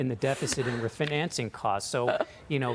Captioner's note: laughter